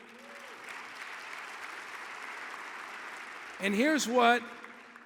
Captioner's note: audience applauding